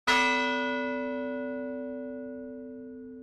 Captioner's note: bell rings